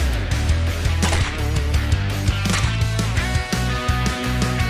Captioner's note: gun roars